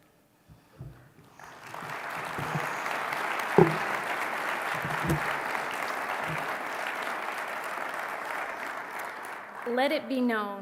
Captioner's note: applause